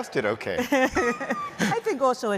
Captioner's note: laughter